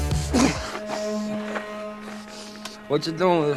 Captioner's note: man panting